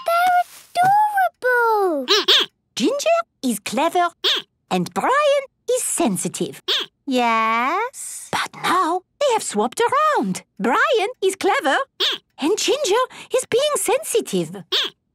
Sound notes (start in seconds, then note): 2.1 squeaking; 8.7 whispering; 14.9 squeaking